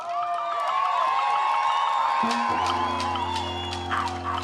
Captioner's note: cheering, applause